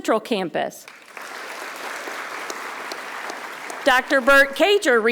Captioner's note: audience applauding